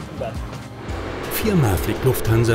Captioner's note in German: Triebwerksgeräusche